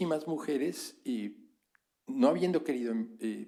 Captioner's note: spanish